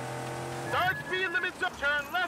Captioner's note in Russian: звук предупреждения о превышении скорости